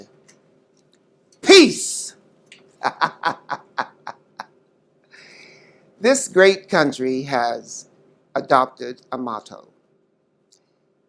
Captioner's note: laughs